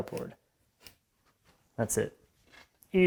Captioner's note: pen on wood scratching